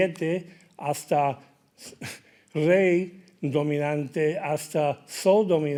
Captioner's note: speaking in Spanish